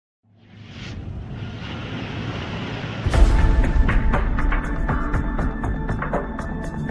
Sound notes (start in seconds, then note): 0.3 logo whooshing; 2.9 dramatic music